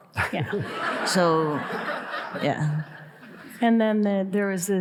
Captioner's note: audience laughing